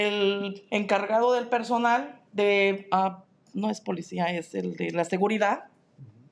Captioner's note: speaking in Spanish